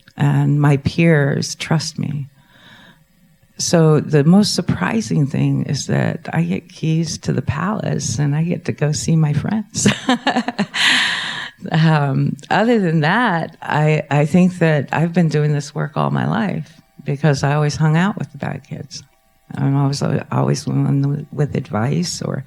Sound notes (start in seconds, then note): 9.8 laughing